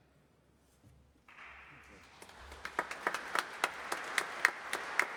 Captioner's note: audience applauding